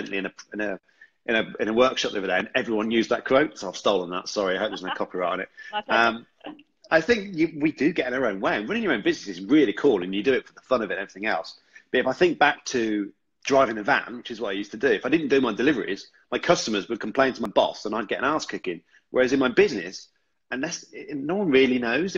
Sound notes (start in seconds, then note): 4.4 laughs